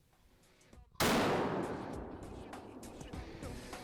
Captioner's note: gunshot sounds; soft beat music